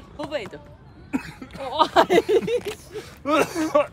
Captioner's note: suddenly cough?